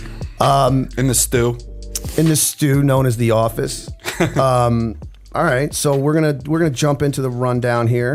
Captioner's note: chuckle